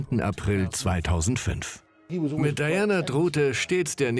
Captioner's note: voiceover